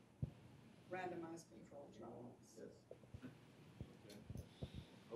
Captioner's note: speaking faintly